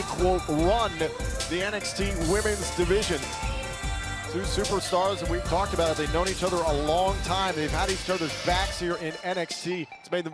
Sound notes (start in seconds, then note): none